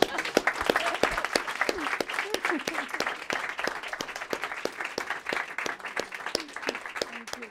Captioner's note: applause